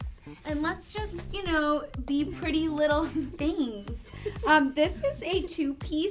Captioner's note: laughs